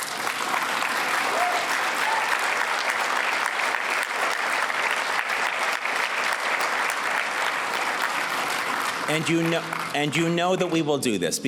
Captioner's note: applause